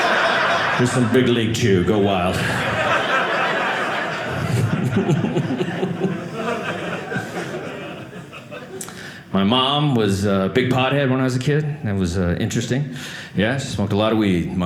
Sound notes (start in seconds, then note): 2.2 audience laughing